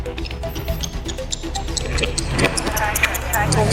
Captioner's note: clock ticking